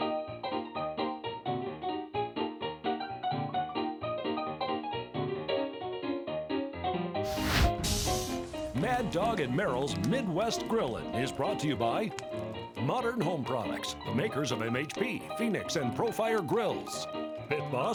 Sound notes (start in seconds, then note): 0.1 upbeat ragtime music; 7.2 flame whooshing